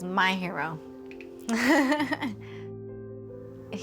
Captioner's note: laughs